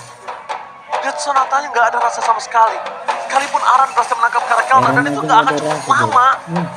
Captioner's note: applause